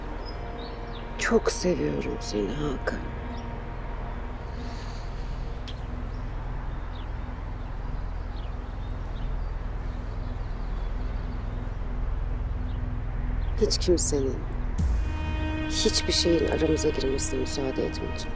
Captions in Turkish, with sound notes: Çok seviyorum seni Hakan. (Kuşlar ötüyor) Hiç kimsenin, hiçbir şeyin aramıza girmesine müsaade etmeyeceğim.